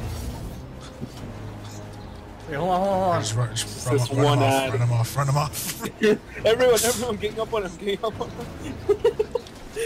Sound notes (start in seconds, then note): 5.5 chuckling; 8.3 chuckling; 8.3 laughing